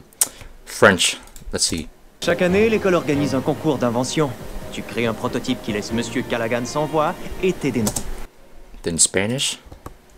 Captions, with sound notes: French, let's see. [Speaking French] Then Spanish.